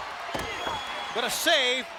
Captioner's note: crowd cheering; fleshy thud